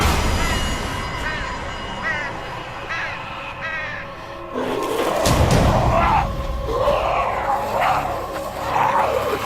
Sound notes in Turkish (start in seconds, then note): 0.0 Gergin bir müzik; 4.5 Zombiler hırlar